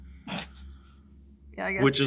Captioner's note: laughs